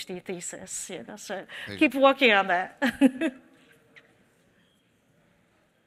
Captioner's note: chuckles